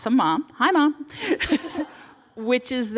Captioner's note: laughter